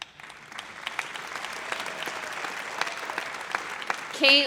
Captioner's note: audience applauds